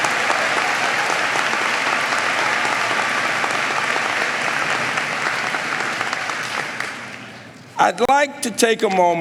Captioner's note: applause